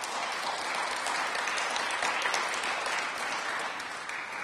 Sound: applause

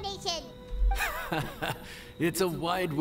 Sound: laughs

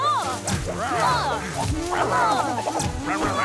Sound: growling

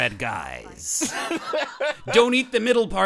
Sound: laughing

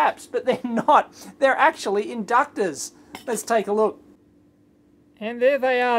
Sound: chuckles

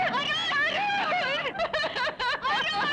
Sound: sobbing

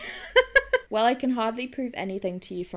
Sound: laughs

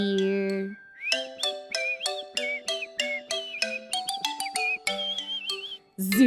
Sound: whistle whistle whistle whistle

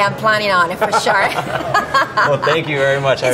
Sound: laughing

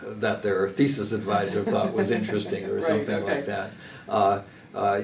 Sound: laugh

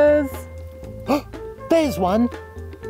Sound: gasps

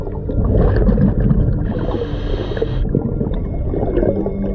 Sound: breaths in; eerie music

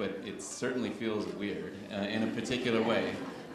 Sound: chuckles

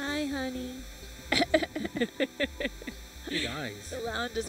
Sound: chuckling

